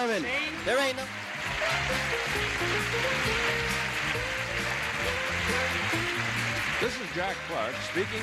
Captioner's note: audience applauds; upbeat game show music